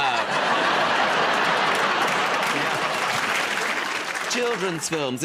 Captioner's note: laughter